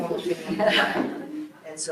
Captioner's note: group laughs